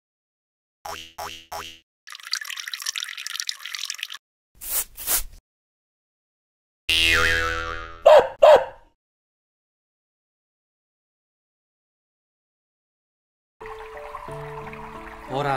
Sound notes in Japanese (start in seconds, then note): 0.9 犬の足音・オシッコの音・砂をかける音; 7.0 ビヨヨヨーン・ワンワン